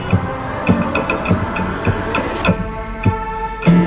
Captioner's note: film rewinding